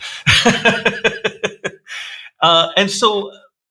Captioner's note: laughing